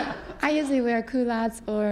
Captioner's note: laughter